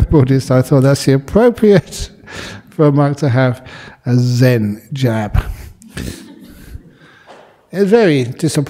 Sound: laughter

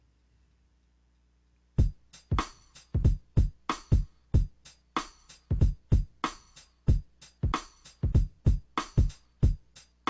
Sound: finger Drumming while recording a sequence

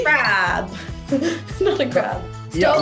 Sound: Maitreyi laughing

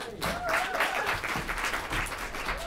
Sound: applause

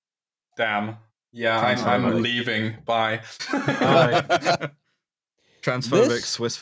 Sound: laughter

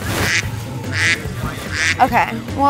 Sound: duck quacking

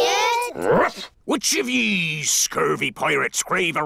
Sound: barks

